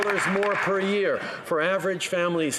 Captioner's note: applause